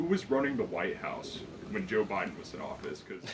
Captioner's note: laughs